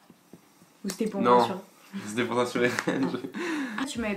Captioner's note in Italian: ridere